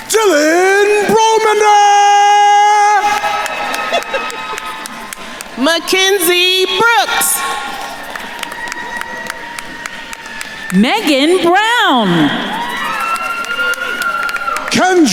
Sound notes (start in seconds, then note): 0.0 attendees applauding; 3.2 attendees cheering and applauding; 8.0 attendees cheering and applauding; 12.6 attendees cheering and applauding